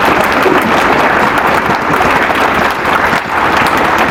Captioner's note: applause